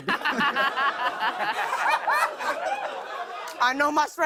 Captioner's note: laughter